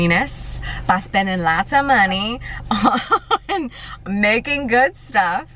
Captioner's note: laughs